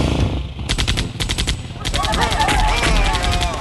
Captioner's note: hand Machine Gun Firing; groaning